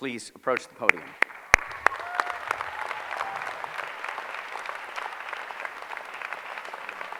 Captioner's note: applause